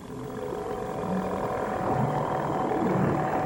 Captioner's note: motor rumbling